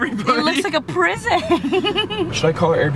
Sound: laughs

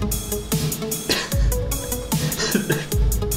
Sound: snicker

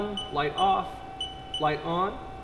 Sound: beeping

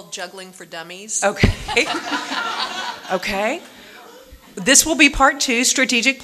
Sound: audience laughing

